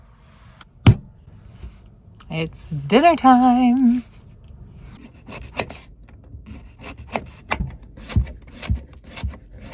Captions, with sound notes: It's dinner time. (knife chopping)